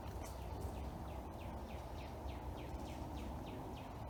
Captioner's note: birds chirping